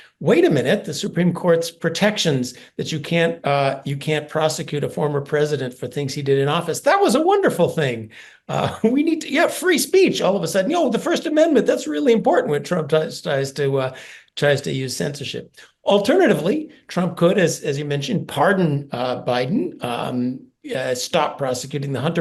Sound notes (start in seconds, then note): 8.5 laugh